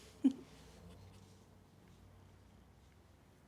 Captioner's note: Marie laughs